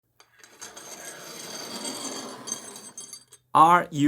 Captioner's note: metal whooshing